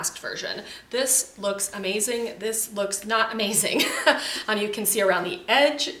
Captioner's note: chuckles